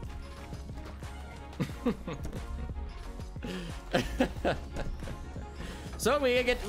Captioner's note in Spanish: se ríe